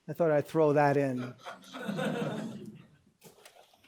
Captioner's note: laughter